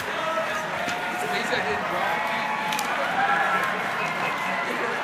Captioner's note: crowd chattering